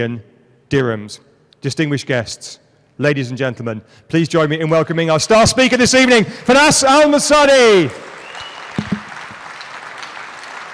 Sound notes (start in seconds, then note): 6.2 audience applauds